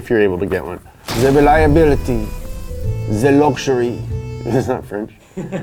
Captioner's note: french accent; cameraman laughing; accordion playing